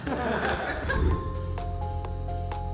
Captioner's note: group chuckling; image whooshes; gentle upbeat music